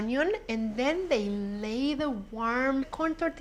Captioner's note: none